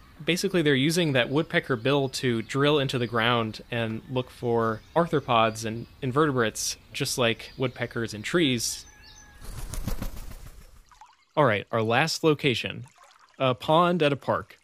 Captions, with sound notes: Basically they're using that woodpecker bill to drill into the ground and look for arthropods and invertebrates, just like woodpeckers in trees. [Wingbeats] Alright, our last location. A pond at a park.